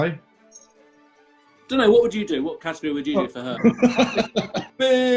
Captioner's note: laughter